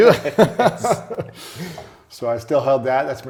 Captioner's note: laughter